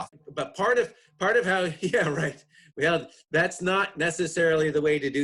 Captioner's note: chuckles